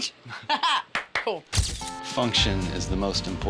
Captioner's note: clapping